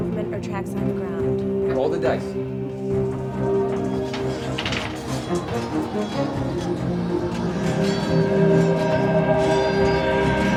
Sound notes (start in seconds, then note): 3.3 mysterious music continues; 3.3 swords clanking